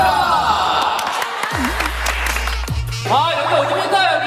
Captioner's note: clap clap clap clap